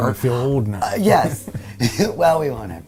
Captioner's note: chuckles